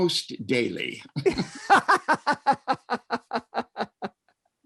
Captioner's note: laughter